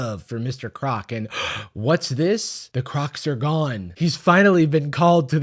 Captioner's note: gasp